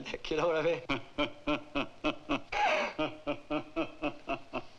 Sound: Zabor laughing; laughs

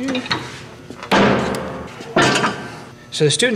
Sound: Iron Man Noises

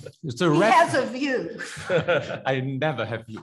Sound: attendee laughs; laughs

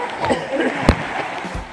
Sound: coughing

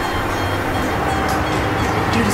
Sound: banging

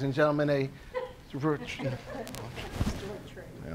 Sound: laughing

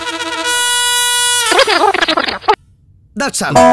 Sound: mumbling

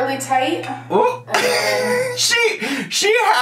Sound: laughs

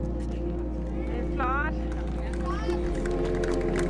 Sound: somber music; speaking in a foreign language off camera

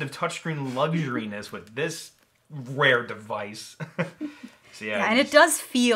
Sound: giggles

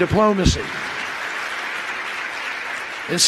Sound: applause

